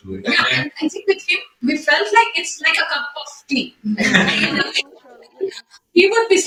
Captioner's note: laughter